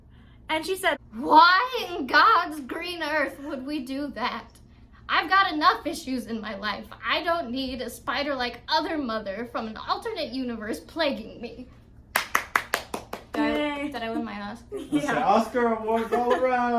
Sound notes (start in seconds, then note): 12.1 claps